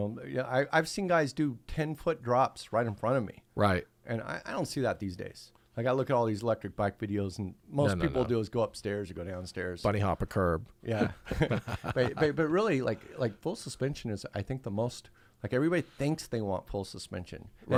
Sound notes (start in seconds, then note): 11.0 laughing